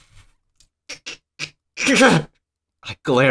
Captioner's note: noise of indescribable rage